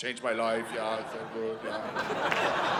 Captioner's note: German accent; audience laughing